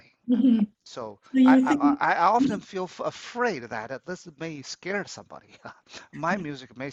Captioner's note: laughs